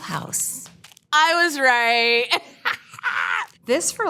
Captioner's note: chuckles